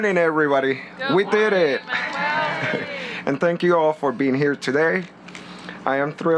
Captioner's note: applause